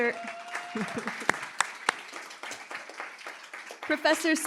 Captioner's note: cheering, applause